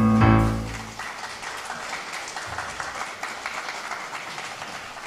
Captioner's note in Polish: oklaski